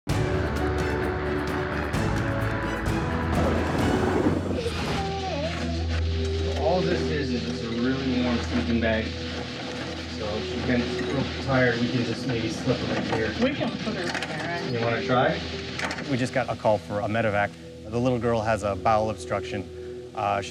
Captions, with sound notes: (intense music) (cries) All this is is a really warm sleeping bag so she feels tired, we can just maybe slip her in here. - We can put her in there. - You wanna try? We just got a call for a Medivac. The little girl has a bowel obstruction.